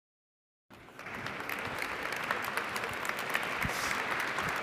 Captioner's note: applause